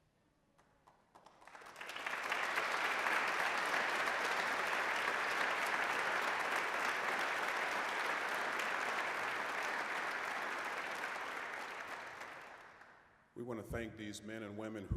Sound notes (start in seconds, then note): 0.6 applause